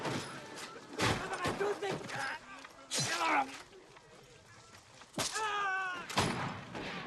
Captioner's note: fighting, Dying screams